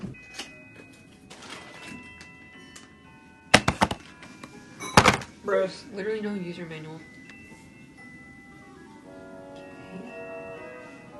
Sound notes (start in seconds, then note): 3.6 cardboard hits the desk; 4.8 drop